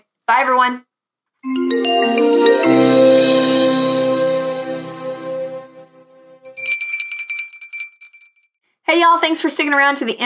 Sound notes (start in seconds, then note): 1.4 music swells; 6.2 bell chiming